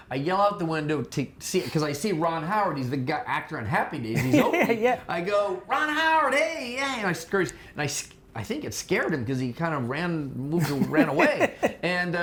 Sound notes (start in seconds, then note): 4.2 laughing